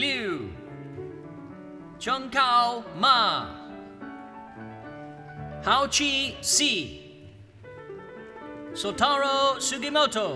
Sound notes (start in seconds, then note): none